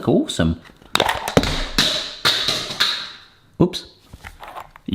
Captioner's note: container clanks on floor